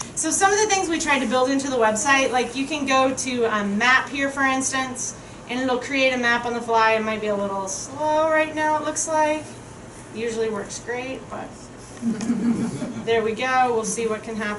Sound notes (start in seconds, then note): 12.0 crowd chuckling